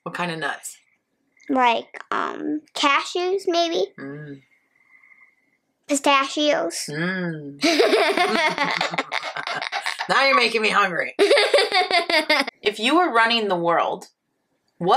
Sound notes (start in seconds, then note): 7.6 laughing; 7.6 laughs